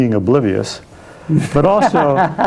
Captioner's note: laughing